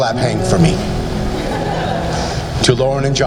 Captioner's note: laughing